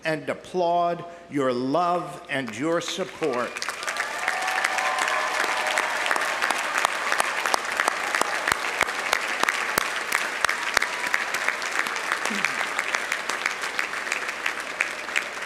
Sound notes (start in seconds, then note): 3.4 audience applauding; 3.4 audience cheering